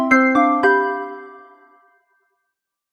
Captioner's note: bells chiming